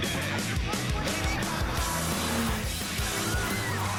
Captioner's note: engine revving; screaming, tires squealing